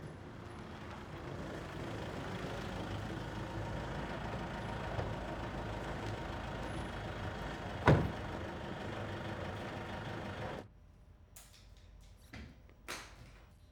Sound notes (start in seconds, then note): 0.3 car approaching; 7.8 door shuts